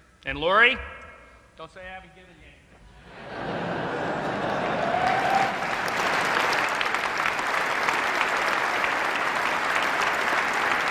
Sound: applause

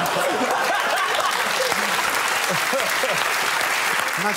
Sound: laughter; applause

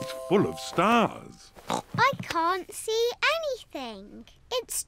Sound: oinks

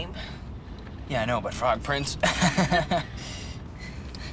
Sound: laughs

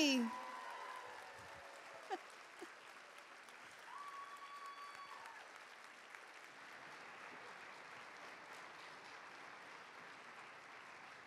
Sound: cheers and applause

